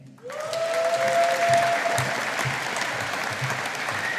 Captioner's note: audience applauding